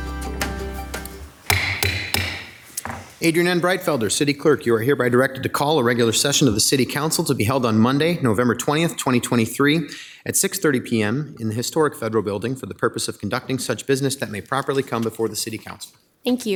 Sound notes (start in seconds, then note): 2.8 table banging